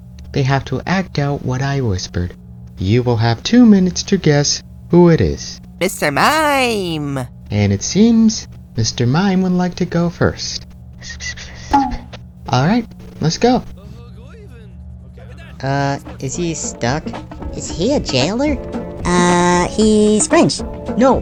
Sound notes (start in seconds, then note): 10.8 she whispers